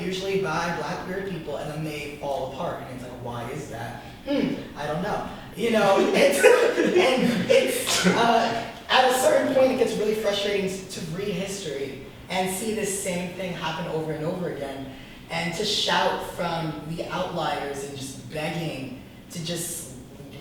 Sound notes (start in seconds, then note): 5.8 group laughs